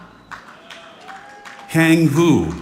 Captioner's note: audience clapping